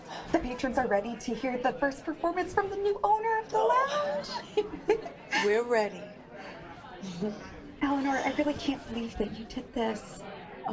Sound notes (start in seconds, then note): 4.5 Molly laughs; 7.1 laughs